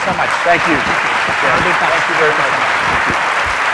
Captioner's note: applause